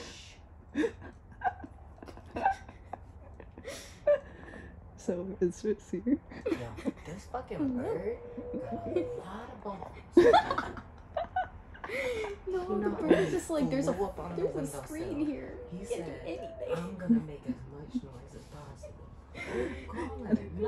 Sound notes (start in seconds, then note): 0.1 shushes pigeon; 0.6 laughing quietly; 0.7 laughing; 6.4 whispering; 10.0 laughing